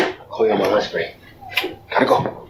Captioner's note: kiss